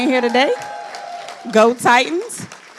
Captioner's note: audience applauding